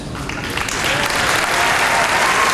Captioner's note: applause